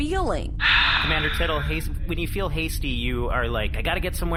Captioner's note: Rolphus sighs wearily